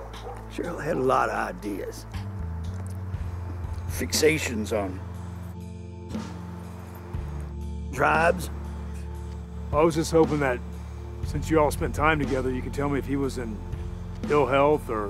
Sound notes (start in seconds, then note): none